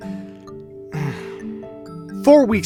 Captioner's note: sigh